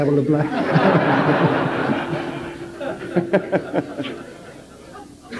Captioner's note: general laughter